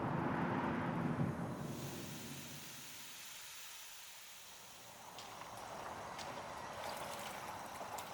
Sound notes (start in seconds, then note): 1.6 spraying water